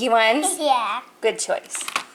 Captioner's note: laughing